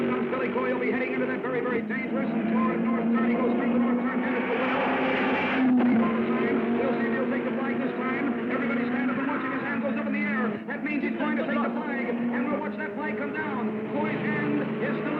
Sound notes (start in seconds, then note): 3.5 car screaming